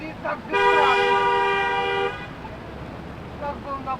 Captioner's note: passing cars honk in support